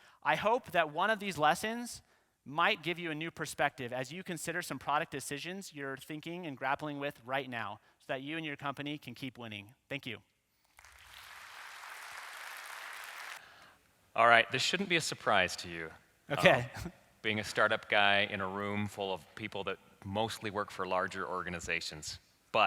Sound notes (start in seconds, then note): 10.7 applause